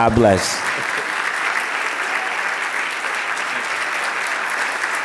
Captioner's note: audience applauding